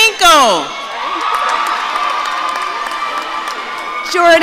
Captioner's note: audience cheering